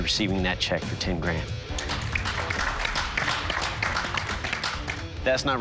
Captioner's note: applause